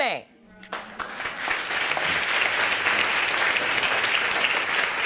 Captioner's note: audience applauding